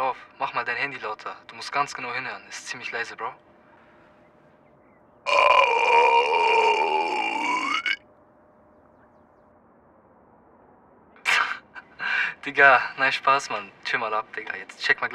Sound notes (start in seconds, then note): 5.2 burping sound